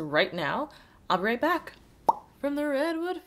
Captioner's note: pop